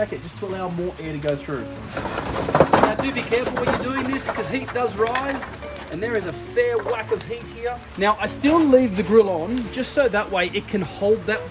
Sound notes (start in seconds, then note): 2.2 coals rattling